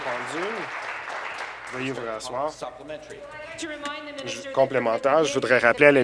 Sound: applause

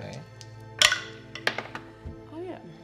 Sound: dice rolling

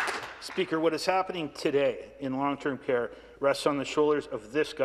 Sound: some Applause

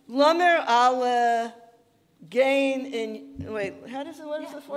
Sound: speaking in Yiddish

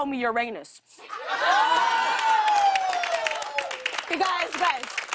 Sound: audience ohs; applause

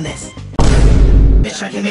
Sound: boom

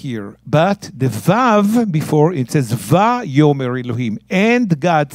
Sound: speaking in Hebrew

